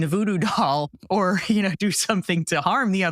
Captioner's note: laugh